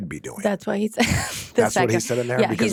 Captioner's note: chuckles